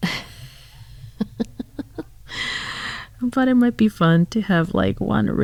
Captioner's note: laugh